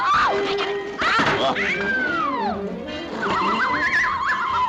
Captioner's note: Olive screams; upbeat jazz music; air squealing